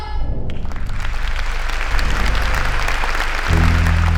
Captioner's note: audience applauding